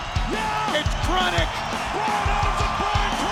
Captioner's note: audience cheers